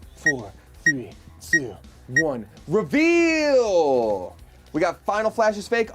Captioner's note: timer beeps